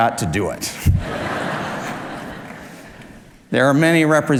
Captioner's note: audience laughs